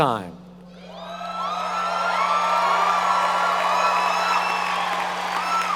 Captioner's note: audience cheering and applauding